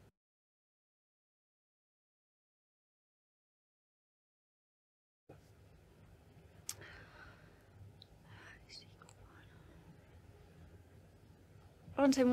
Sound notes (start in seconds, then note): 8.6 whispers